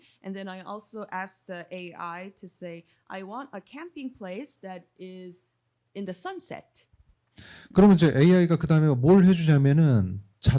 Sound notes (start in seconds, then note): 8.2 speaking korean